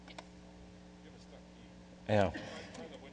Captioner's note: voiceover